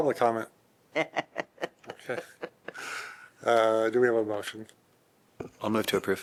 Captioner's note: laughter